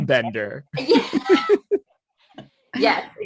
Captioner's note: group laughing